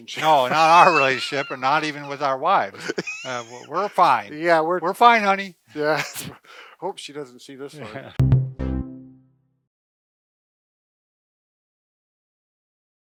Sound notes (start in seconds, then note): 0.0 laughs; 7.8 laughs; 8.0 cheerful tone